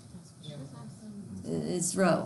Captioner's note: students murmur